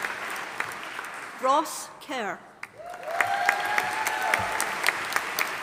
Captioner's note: audience applauding